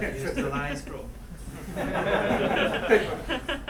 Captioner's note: laughing